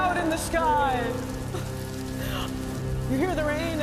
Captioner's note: chuckles